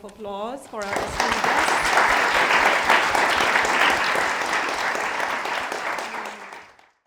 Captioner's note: audience applauds